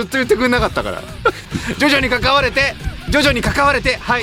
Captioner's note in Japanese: 笑い